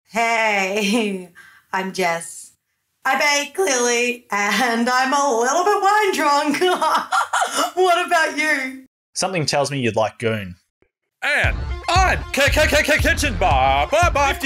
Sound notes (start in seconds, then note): 6.8 laughs